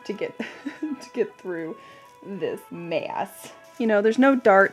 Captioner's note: chuckles